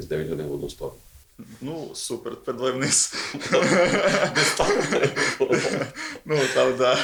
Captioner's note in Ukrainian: Сміються